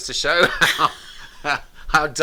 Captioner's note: both laughing